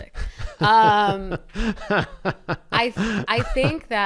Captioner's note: laughter